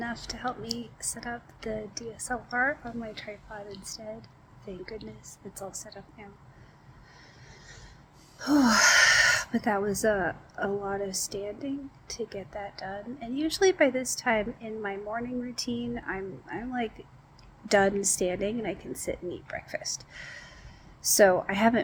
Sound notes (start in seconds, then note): 8.4 sighs